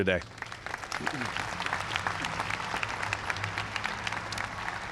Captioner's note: applause